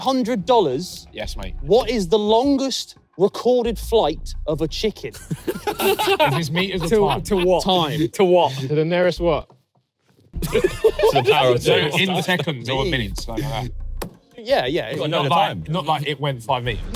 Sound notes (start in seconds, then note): 5.1 everyone laughs; 10.4 laughs